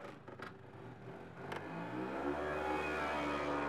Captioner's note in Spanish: motor acelerando